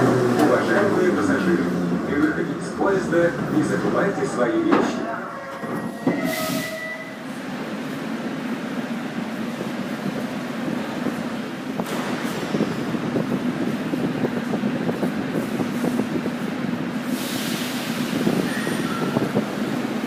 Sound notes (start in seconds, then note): 11.7 closing doors